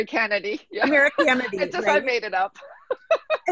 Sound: laughter

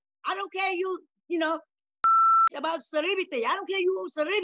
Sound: beep

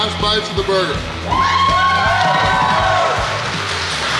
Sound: crowd cheers; crowd clapping

